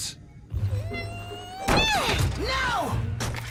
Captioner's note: groaning